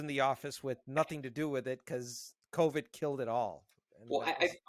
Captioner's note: murmuring